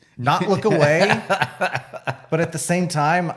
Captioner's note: laughs